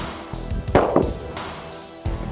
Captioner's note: gun shot